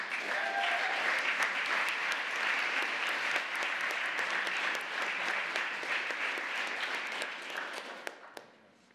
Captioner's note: applause